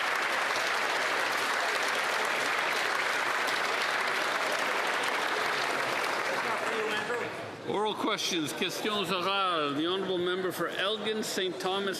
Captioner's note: applause